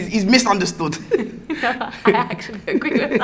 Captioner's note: laughing